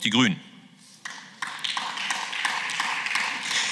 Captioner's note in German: Beifall